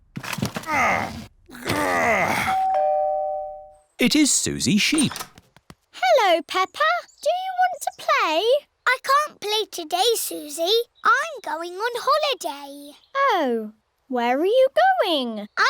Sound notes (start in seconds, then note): 1.4 groans; 2.4 doorbell rings